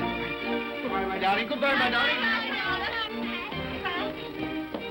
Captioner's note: children clamoring; upbeat music